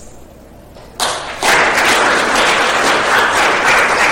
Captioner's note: applause